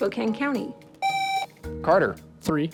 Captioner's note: buzzer